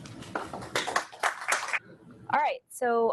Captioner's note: audience applauding